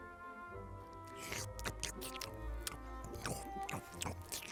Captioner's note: lips smacking